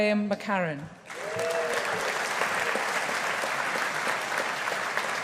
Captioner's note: audience applauding